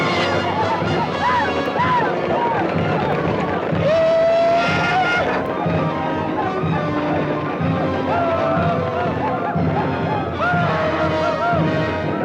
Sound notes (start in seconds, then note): 3.9 Red Hawk howls